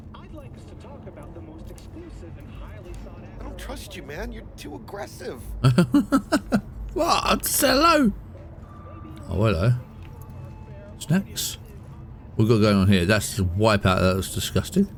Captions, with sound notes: I don't trust you, man. You're too aggressive. (laughing) What? Hello. Oh, hello. Snacks. We're going on here. That's wipeout, that was disgusting.